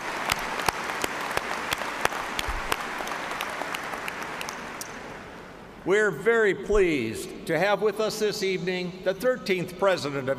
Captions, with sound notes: SYMPHONY ORCHESTRA UNDER THE DIRECTION OF PROFESSOR JEREMY MULHOLLAND FOR PROVIDING OUR MUSIC THIS EVENING. [APPLAUSE]